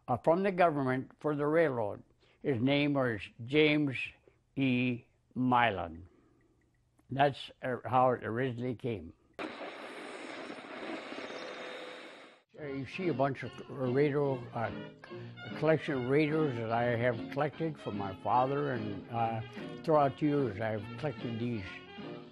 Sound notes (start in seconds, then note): 9.4 radio tuning